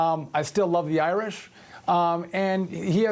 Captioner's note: none